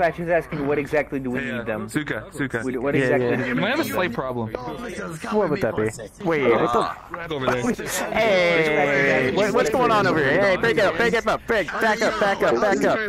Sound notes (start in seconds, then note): 7.4 laughs